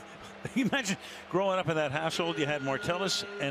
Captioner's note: laughs